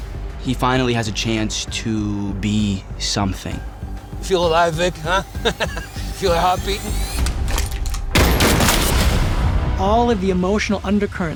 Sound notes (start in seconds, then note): 5.2 chuckles